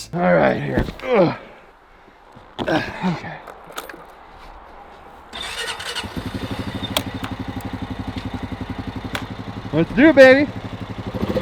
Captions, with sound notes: All right here. Okay. (engine sputters) Let's do it, baby.